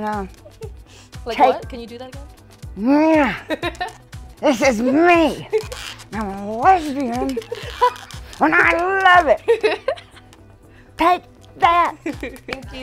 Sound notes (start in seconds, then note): 2.9 gentle roar; 3.2 laughter; 9.4 laughter